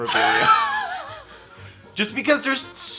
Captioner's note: laughing